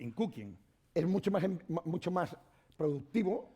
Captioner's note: speaking spanish